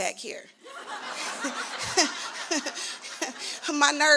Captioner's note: laughter